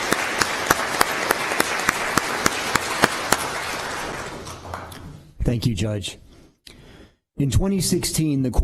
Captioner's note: applause